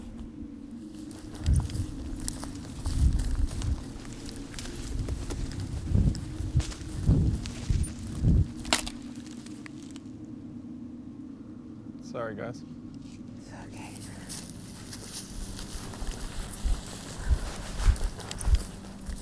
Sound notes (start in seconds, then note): 1.0 footsteps; 8.5 branch cracks